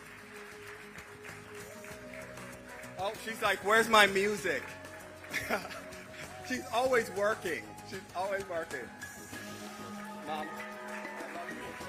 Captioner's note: applause